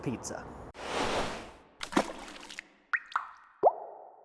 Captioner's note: sauce splattering